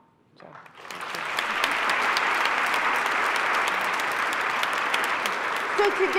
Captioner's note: applause